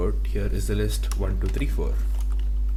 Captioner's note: keybord clicking